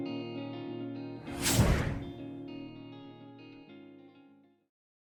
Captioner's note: air whooshes